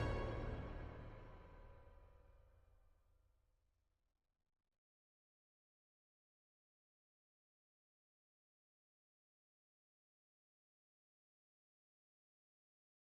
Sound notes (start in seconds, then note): 2.9 fades out